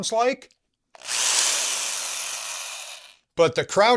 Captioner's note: drill noises